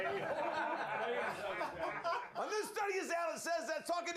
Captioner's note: laughter